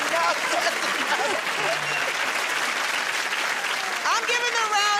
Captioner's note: applause